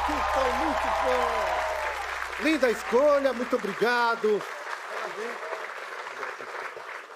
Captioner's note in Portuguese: aplausos